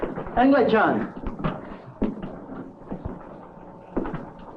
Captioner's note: Morris exhaling